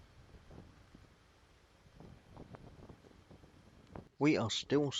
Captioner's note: sound - Sound of Wind blowing across the microphone